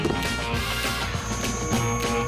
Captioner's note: screech